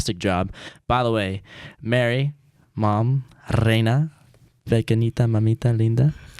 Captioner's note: speaks foreign language